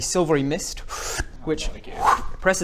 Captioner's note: whoo